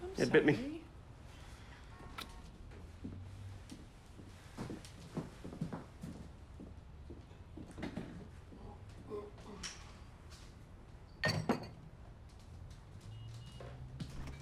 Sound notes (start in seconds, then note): 5.2 shoes clacking; 11.2 glass clinks